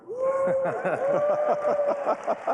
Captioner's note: applause